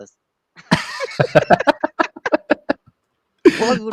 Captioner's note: laughter